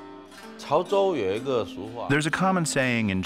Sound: speaking Chinese

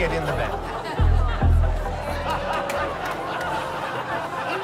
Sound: laughter

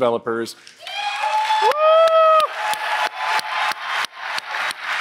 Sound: applause

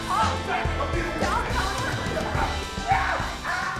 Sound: shouting

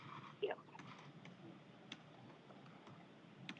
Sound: distorted audio

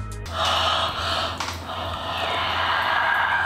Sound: air whooshing

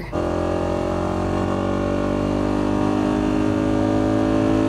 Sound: motorcycle drones

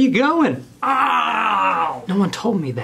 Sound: man yelling

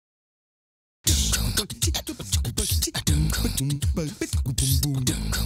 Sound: man beatboxing

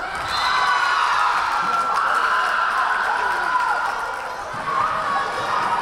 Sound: crowd cheering; whistle blaring

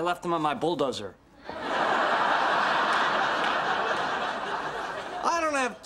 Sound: audience laughter

